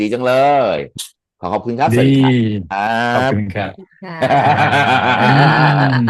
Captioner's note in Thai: เสียงหัวเราะ